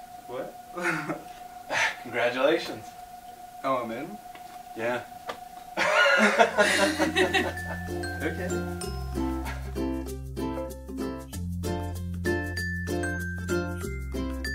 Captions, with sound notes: What? Congratulations. Oh, I'm in? Yeah. [LAUGHING] OK.